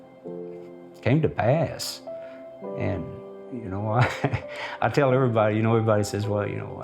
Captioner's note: chuckles